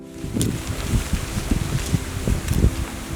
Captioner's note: wing blows